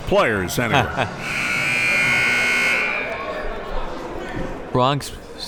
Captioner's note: buzzer ringing